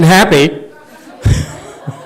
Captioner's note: laughs, audience laughs